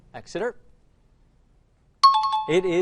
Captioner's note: out of time alarm